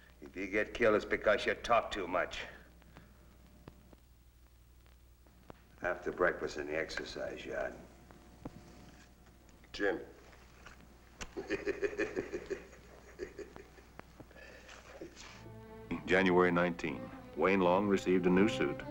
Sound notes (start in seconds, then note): 11.2 Louie giggling